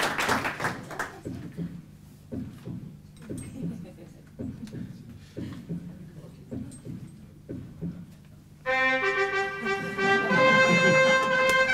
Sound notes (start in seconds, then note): 0.0 applause; 2.2 sounds of a Heartbeat; 10.4 trumpet Fanfare